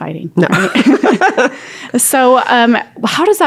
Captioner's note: laughter